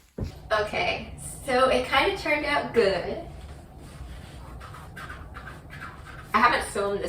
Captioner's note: swoosh noises